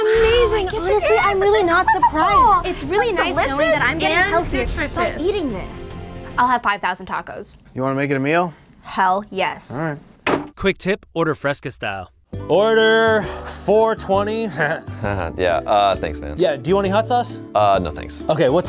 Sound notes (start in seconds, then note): 14.4 chuckles